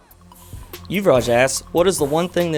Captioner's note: voiceover